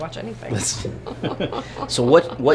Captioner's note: both laughing